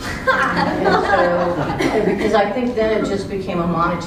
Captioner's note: laugh